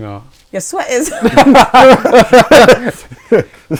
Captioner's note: laughing